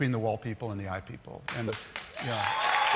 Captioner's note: applause